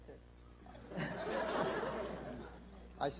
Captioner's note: laughter